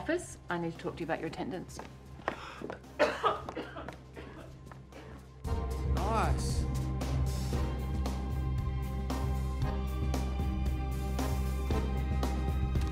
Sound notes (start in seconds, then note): 2.3 coughs